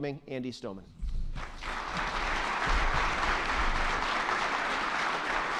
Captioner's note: attendees clapping